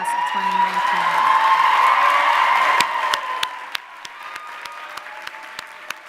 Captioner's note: audience cheering and applauding